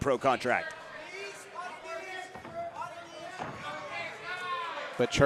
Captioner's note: audience cheering